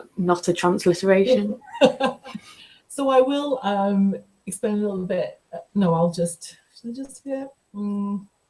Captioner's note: laughter